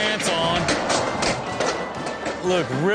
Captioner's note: sealing crashing